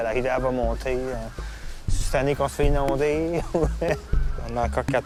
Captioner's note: laugh